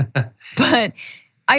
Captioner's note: laugh